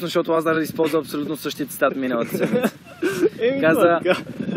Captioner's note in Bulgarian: се смее